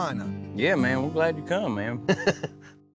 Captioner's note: chuckles